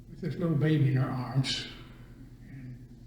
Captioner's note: none